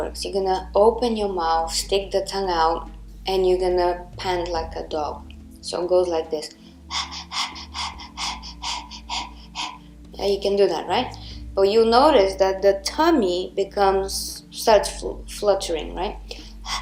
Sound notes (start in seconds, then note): 6.8 panting loudly